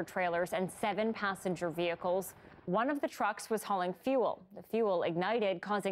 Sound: siren

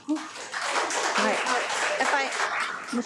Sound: audience applauds

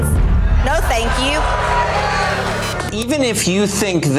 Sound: crowd yelling

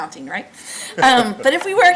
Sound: laughs

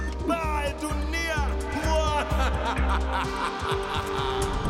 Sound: laughing

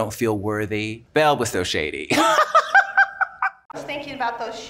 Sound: laughs

